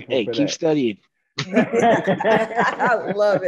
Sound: all laughing

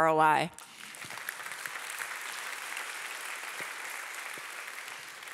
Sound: audience applauding

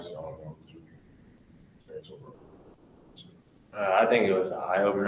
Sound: speaks away from mic

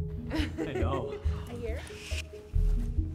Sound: laughing

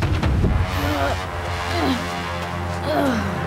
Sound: Aang groans

